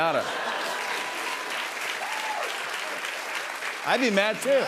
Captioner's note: laughter and applause